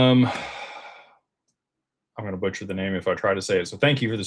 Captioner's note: sighs